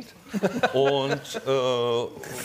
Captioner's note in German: Lachen